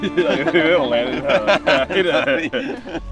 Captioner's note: laughs